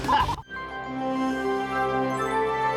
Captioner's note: <i> giggling</i>